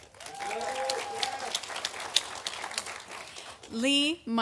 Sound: audience applauding

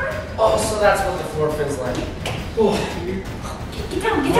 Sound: exhales loudly

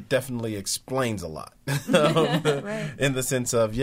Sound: all laughing

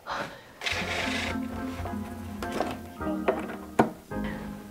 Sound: frame rustling

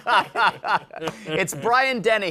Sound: laughter

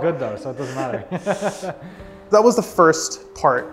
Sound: laughing

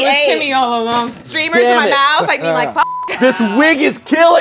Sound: beep

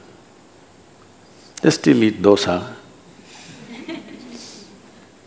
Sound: few laugh

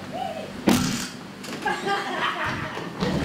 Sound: smack

